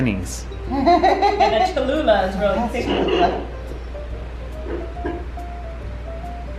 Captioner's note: laughing